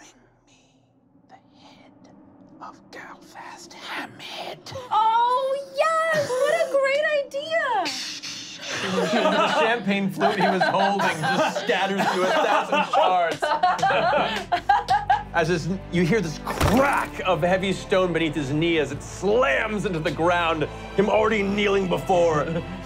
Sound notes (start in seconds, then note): 8.3 spraying; 13.7 laughing